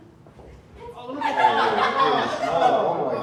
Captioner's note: laughter